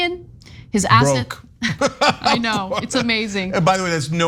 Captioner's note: laugh